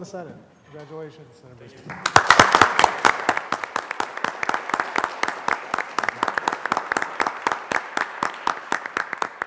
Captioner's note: applause